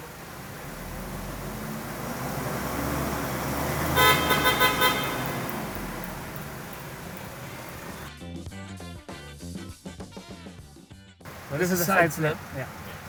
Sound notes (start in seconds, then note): 0.0 engine revs; 3.1 car beeps; 5.1 revving stops; 8.0 upbeat music